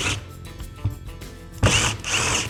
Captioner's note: drill whirring